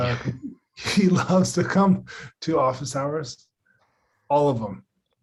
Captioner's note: chuckling